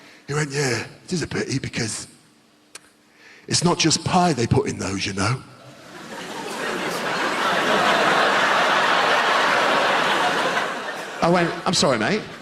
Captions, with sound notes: He went, "yeah, it is a pity because... It's not just pie they put in those, you know?" *Audience laughter* I went, "I'm sorry, mate?"